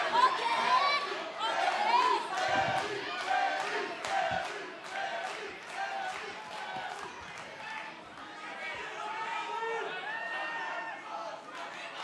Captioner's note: fans chanting